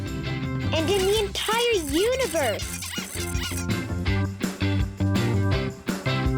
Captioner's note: animals squeaking